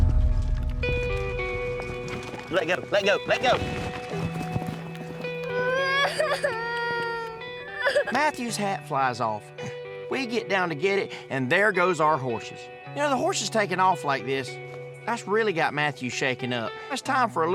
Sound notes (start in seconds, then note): 0.8 hoof beats running away; 5.4 crying